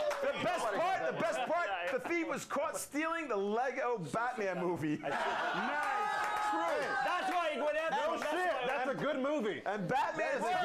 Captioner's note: audience cheers; audience cheers